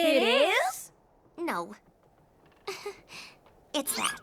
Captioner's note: chuckles